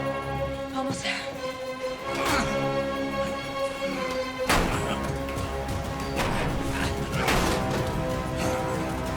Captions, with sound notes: Almost there. - (Lockman grunting) - (banging)